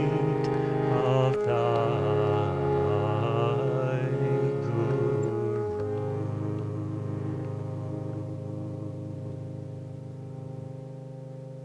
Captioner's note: recording plays